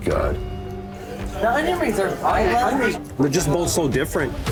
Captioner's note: indistinct customer chatter